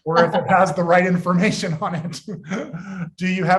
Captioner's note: laughing